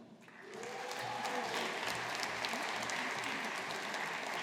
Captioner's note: audience applauding